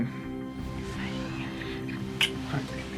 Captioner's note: lips smack